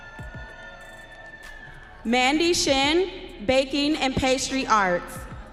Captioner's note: audience cheering